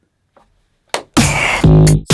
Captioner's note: clap